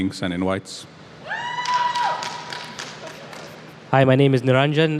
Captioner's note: cheering